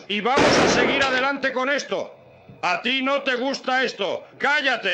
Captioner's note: gunshot